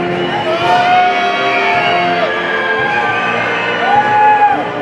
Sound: people cheering

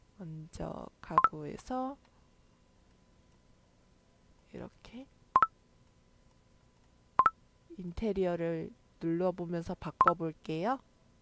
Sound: click…

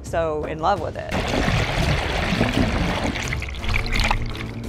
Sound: water splashing

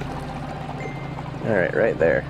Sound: sonar chimes

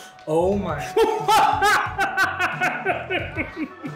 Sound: laughing

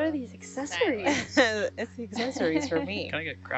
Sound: woman laughing

